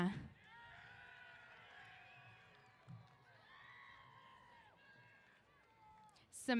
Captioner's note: cheers